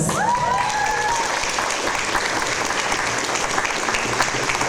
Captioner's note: audience applause